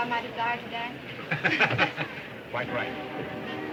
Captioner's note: group laughs